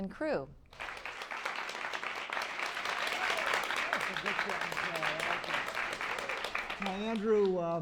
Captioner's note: applause